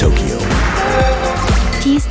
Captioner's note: Xbox startup